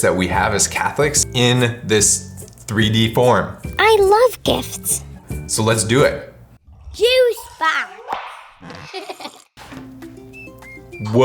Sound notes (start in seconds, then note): 8.7 child giggles; 9.7 bright music